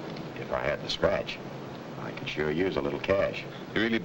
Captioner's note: none